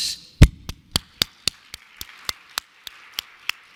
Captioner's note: claps